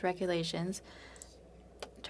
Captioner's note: speaking French